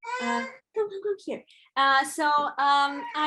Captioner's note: baby crying